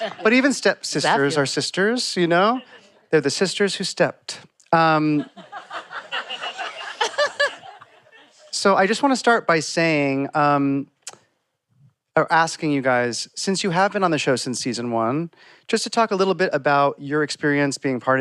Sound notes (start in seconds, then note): 5.0 laughter